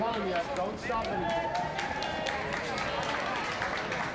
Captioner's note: crowd cheering